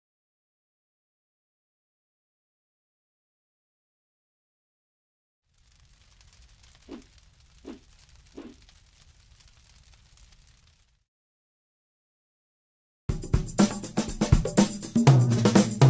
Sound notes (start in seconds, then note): 5.4 crackling fire; 13.1 upbeat drum music